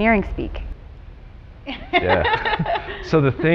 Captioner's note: laughter